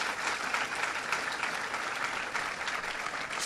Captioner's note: applause